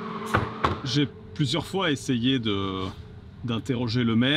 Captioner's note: French spoken audio